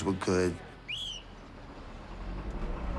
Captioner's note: whistle blows